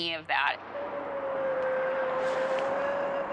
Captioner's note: eerie howl